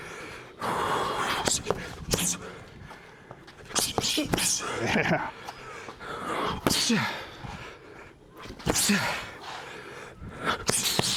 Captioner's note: breathing